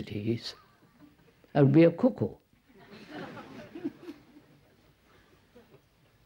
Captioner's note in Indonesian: Tertawa